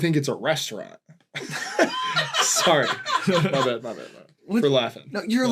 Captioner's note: laughter